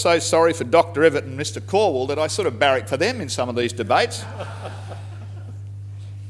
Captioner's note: laughter